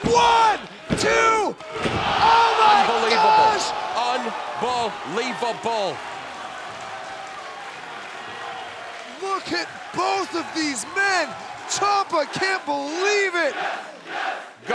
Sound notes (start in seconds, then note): 6.5 applause